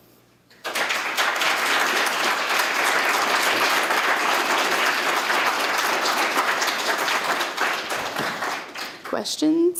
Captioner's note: applause